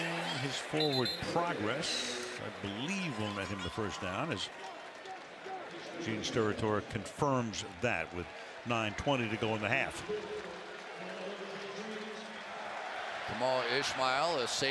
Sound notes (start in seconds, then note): 10.7 pa announcement